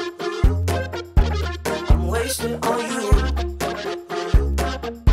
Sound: hoo hoo

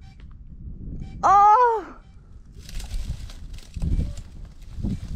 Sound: groans; branches rustling

